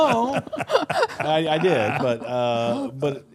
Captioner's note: group laughs